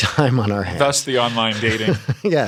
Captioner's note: laughter